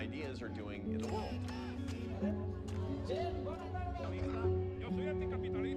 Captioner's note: speaking foreign language